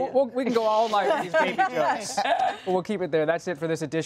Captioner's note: laughter